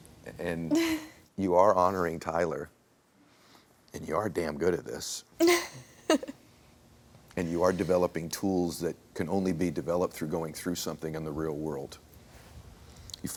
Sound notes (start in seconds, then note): 5.4 laughs